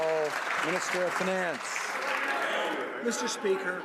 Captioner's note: some Applause